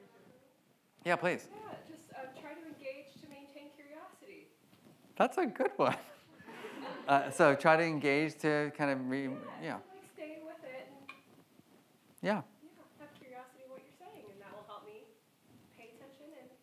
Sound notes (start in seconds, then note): 5.8 laughs; 6.4 audience laughs